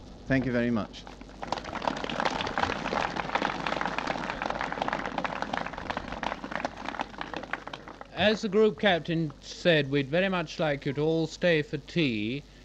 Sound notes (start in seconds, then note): 3.3 applause